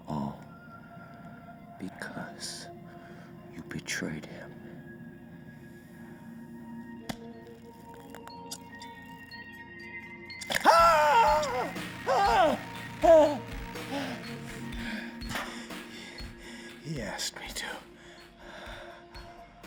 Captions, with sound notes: All because you betrayed Him. (scissors snipping) (Rowland screaming) - He asked me to.